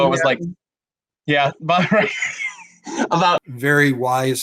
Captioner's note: lauging